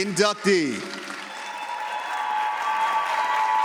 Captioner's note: audience applauds